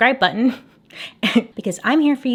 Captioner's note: chuckles